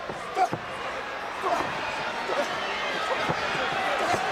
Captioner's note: crowd chattering